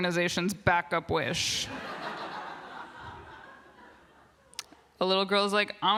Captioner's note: laughter